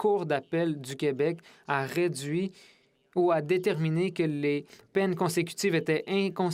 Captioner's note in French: voix de l'interprète